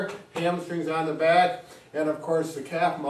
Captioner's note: hands tapping